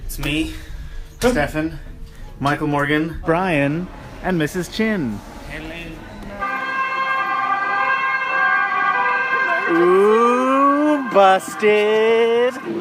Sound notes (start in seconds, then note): 6.4 european emergency siren